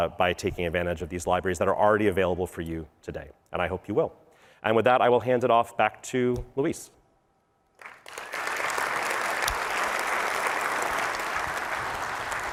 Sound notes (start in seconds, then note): 7.8 applause